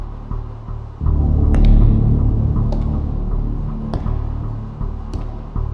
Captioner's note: footsteps approaching